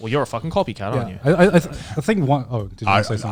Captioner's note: affirmative murmuring